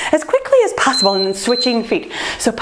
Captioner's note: timer beeps